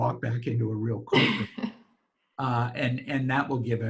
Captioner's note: laughs loudly